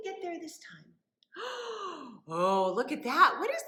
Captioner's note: gasps